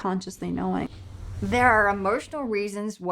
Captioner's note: whooshing